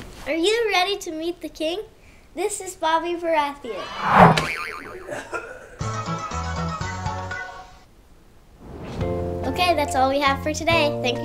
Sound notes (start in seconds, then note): 5.9 circus music; 8.6 fire blowing